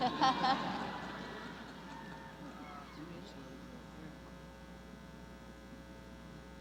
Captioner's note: chuckling